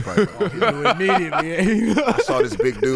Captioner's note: laughing